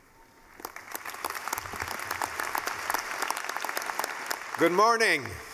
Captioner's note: clapping